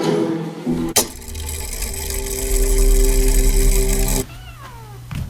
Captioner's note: mechanism whirring